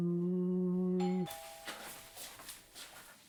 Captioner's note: doorbell rings